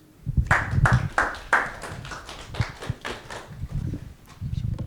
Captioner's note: audience clapping